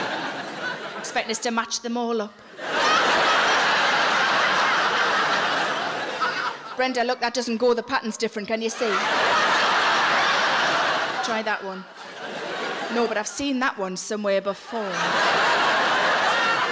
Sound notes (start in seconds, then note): 2.5 audience laughing